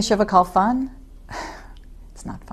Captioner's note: sighs